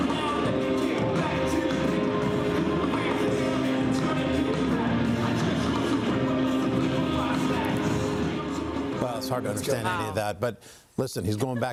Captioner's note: cheers